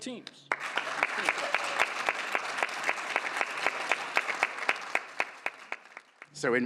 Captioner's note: applause